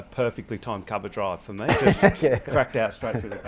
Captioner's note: Ricky laughing